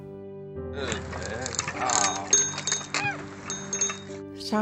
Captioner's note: bicycle bell ringing